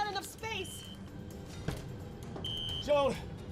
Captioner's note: beeping